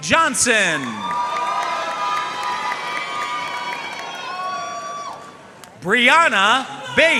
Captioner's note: audience cheering and applauding